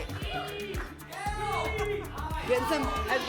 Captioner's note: audience shouting letters